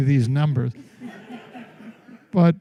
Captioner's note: laughter